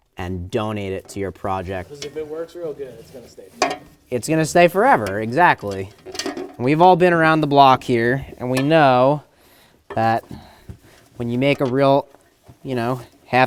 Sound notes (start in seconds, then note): 5.8 metal clinking